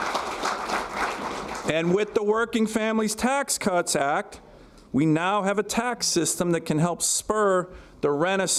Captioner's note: applause